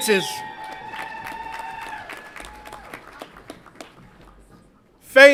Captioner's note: audience applauds and cheers